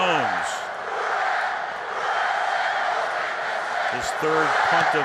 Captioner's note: crowd chanting